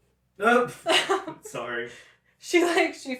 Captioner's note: laughter